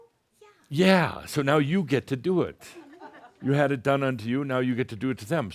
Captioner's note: a few chuckles